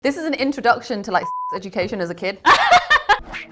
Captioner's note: beep; laughs